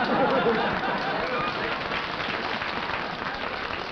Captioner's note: chuckling; applause